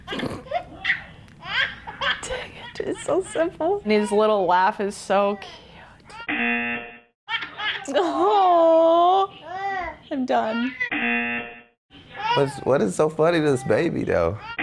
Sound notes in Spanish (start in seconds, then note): 1.6 risitas; 6.2 zumbador; 10.9 zumbador